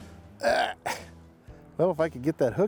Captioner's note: grunt